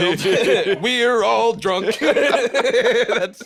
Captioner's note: both laughing